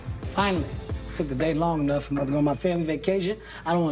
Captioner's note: cellphone ringing